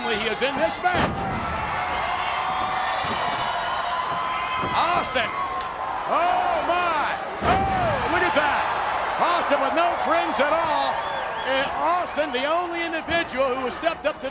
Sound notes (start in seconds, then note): 2.3 footsteps plodding; 6.5 body thudding